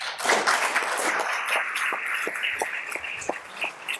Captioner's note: audience applauds